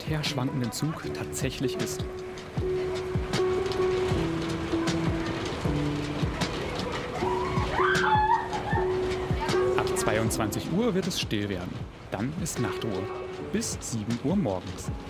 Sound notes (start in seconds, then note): 7.2 screaming